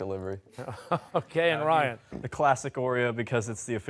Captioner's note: chuckling